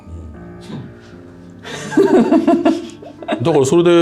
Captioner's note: laughs